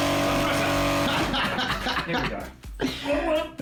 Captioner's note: laughing